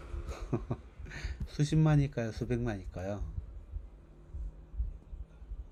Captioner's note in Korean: 웃음